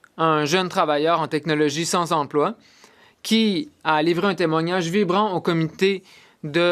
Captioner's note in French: voix de l'interprète